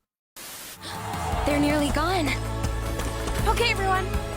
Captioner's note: gasps